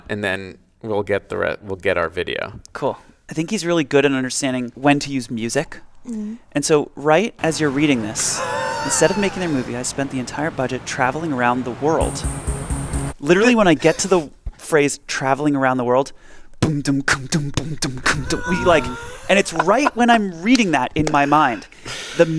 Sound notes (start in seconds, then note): 16.6 beat boxing